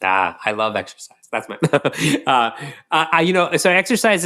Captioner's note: chuckles